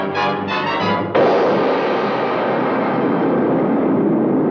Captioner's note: dramatic music; duck popping